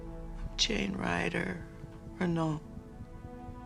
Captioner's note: none